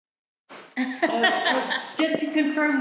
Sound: group laughs

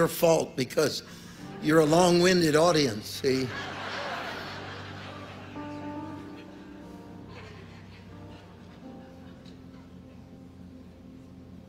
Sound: audience laughs

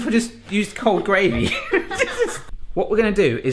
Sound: both laughing

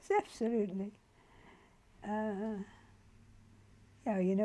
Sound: pauses for 3 seconds

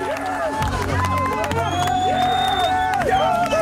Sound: cheering

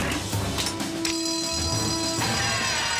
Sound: <i>school bell rings</i>; <i>screaming</i>

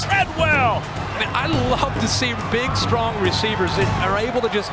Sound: voiceover

